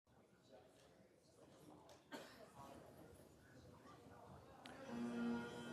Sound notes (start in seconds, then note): 1.3 crowd chattering